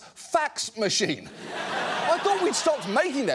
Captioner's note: audience laughs